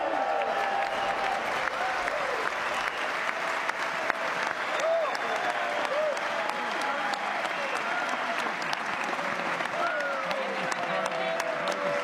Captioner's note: applause